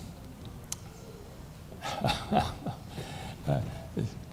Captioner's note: chuckles